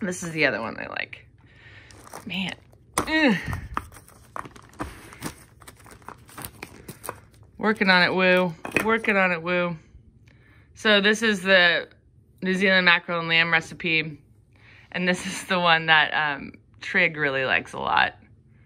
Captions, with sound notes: and this is the other one they like. Man, (woman grunting). (plastic rustling) Working on it, Woo, working on it, Woo. So this is the New Zealand mackerel and lamb recipe, and this is the one that Trig really likes a lot.